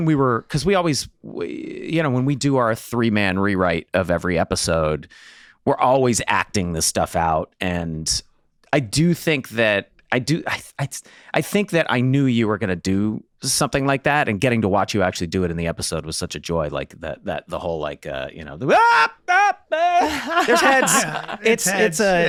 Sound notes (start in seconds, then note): 18.6 Glenn screaming; 19.7 laughing